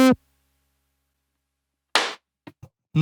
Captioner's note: clap